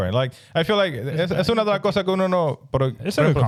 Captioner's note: speaking In Foreign Language